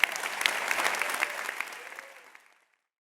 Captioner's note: applause